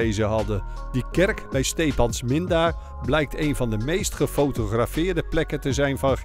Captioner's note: voiceover